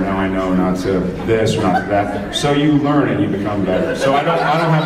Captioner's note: laughs